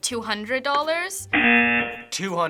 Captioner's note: rejection buzzer